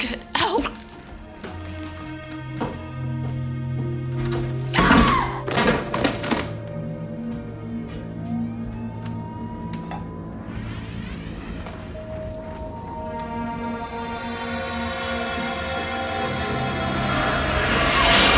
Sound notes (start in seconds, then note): 4.7 screams; 12.8 ominous music